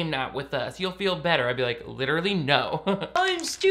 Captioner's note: laughs